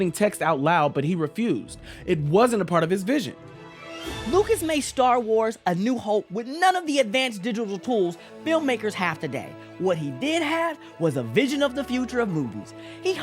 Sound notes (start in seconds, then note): none